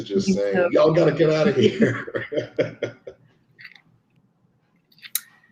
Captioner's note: laughs